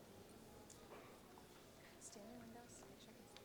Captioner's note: none